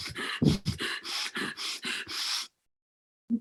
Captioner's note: exhaling; breathing gradually faster